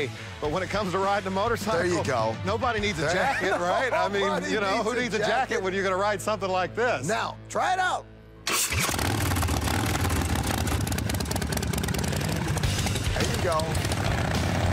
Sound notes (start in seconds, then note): 8.5 engine sounds